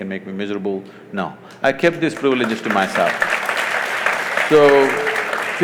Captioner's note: applause